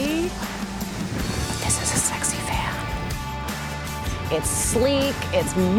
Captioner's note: whispers